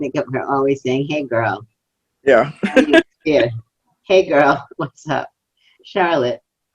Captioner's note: laughs